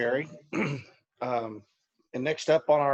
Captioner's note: clearing throat